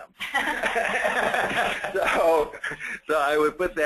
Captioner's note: laughter